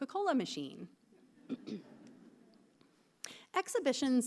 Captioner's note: clears throat